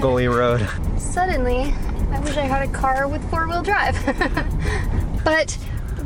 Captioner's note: laughter